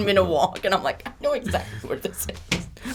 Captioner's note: laughs